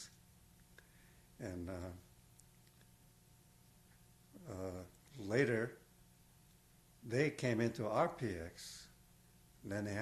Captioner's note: pauses for 3 seconds